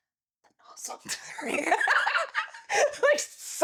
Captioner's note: both laughing